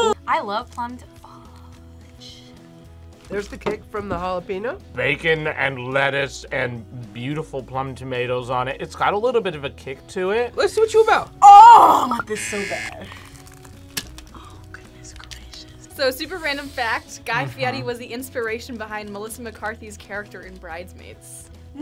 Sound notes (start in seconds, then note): 1.8 whispers; 12.4 buzzer; 14.0 whispers